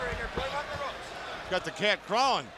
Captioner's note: crowd chatter